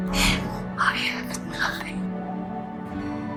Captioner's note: voiceover